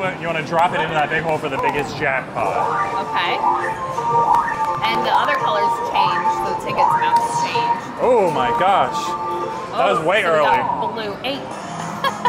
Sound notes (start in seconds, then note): 4.1 lively music; 4.1 machine warbling; 11.8 laughs